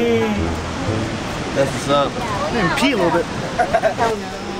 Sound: laughing

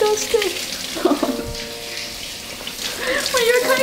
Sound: chuckles

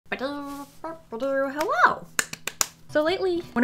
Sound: clap

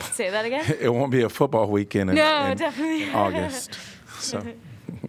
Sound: laughter

